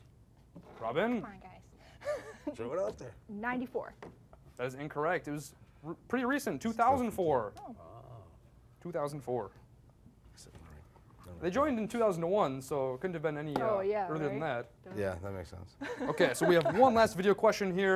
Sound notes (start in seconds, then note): 15.8 contestants mumbling and laughing